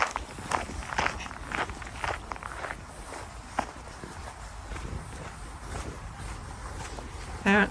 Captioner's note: dogs panting